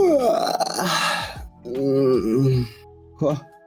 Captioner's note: groaning